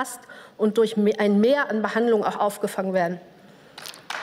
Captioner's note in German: Beifall